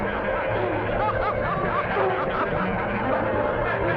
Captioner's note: laughing echoing